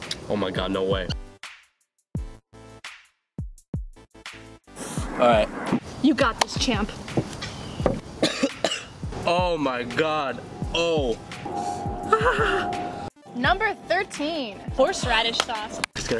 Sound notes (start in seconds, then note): 8.2 coughing